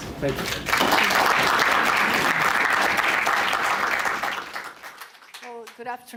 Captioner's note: applause